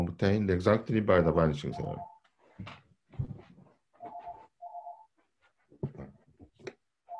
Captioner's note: phone ringing